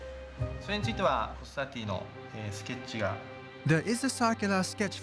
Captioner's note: speaking Japanese